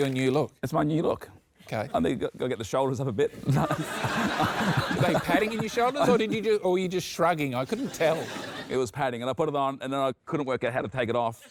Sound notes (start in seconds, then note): 3.4 laughter